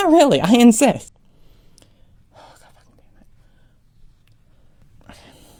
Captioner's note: sigh